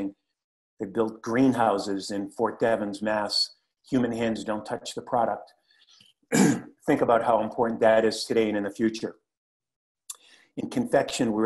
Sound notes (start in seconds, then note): 6.3 cough